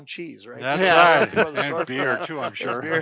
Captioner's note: laughter